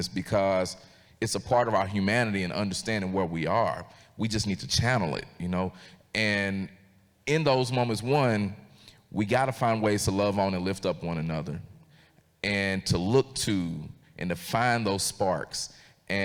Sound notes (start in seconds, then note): none